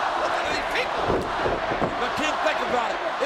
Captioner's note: audience chanting